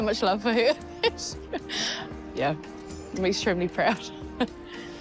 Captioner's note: laughs